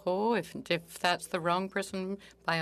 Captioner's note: speaking French